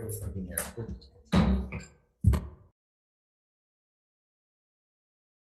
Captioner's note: gavel slamming